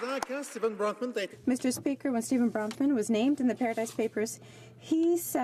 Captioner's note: some Applause